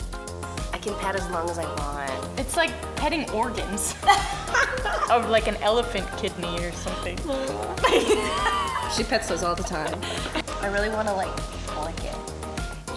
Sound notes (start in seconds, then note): 4.0 laughing; 7.2 laughing